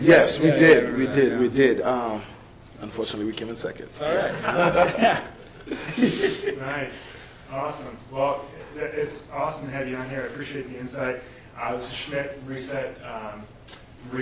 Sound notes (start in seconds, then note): 4.1 laughs